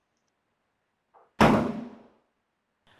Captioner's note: banging